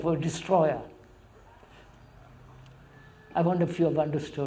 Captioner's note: laughs